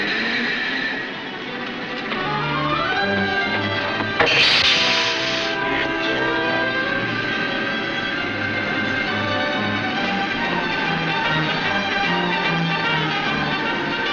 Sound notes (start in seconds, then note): 4.1 explosion banging